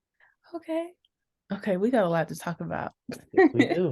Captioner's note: laughs